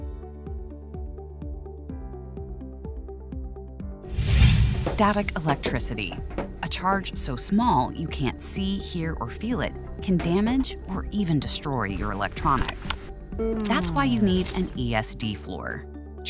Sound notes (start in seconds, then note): 4.1 transition whooshing